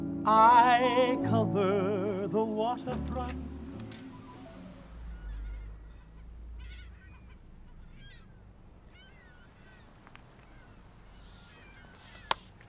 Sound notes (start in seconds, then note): 5.7 seagulls crying; 11.1 spray can hissing